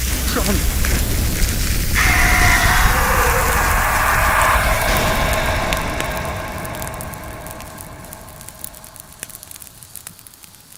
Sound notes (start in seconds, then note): 1.9 john screams